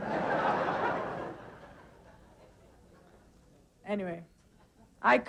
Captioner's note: audience laughing